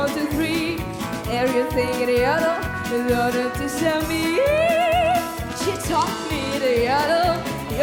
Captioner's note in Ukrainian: оплески